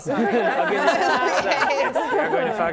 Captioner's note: laughing